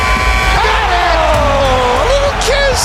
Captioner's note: sports announcers cheering